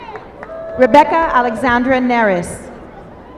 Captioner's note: applause